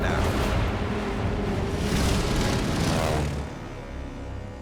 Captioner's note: plane engines whining